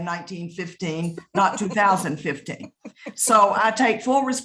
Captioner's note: laughing